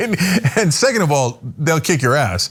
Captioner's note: laugh